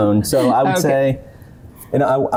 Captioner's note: laughs